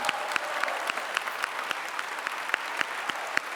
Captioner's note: clapping